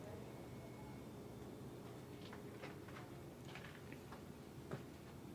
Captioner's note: shoes padding